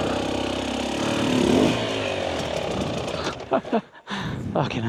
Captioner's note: laughing